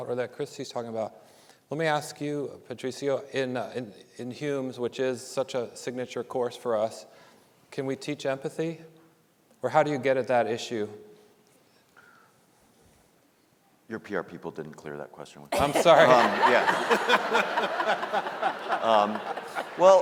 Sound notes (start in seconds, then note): 15.5 audience laughing; 15.5 panelists laughing